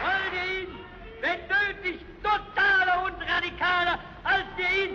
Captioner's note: speaking in German